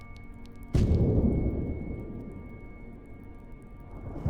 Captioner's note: thunder crashing